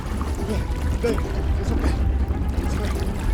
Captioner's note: suspenseful dramatic music; water lightly lapping; pants